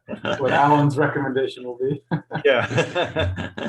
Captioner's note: laughing